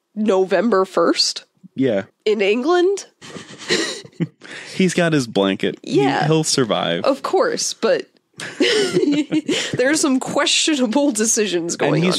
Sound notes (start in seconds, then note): 3.2 both laugh; 8.4 both laugh